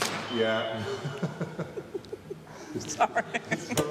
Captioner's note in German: rowling & fotograf lachen